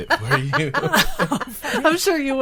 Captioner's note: group laughing